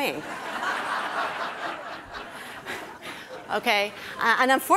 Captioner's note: audience laughing